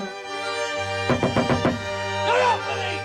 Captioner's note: knocking on window